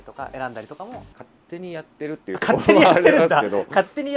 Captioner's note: laughs